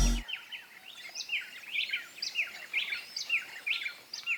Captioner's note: rain forest noises